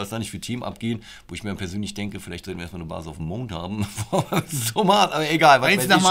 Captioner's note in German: Lachen